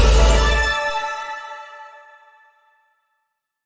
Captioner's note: chime ringing